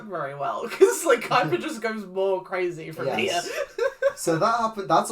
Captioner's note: laughs